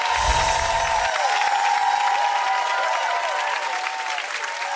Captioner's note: gentle chiming; audience clapping and cheering